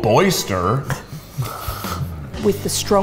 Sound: chuckles

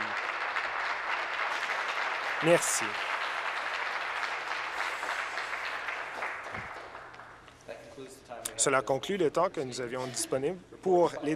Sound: applause

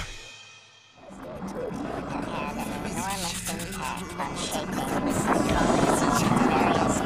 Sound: electronic warbling

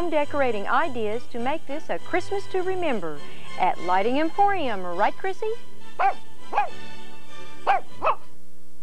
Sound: barking

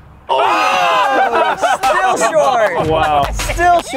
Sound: laughter

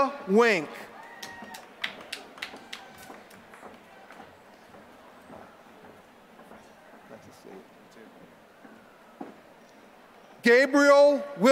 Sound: applause

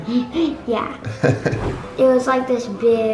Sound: laughs

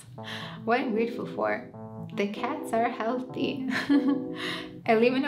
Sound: laughs

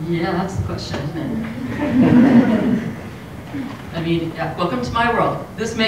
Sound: laugh

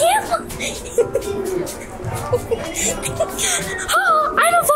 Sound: laughing

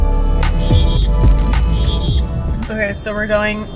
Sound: cars honking

